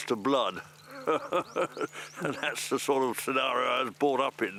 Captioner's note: laughs